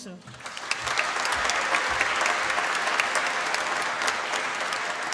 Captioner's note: applause